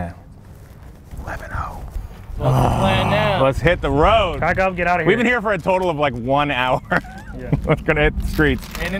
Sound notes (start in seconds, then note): 2.3 groans